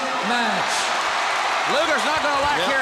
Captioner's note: crowd cheering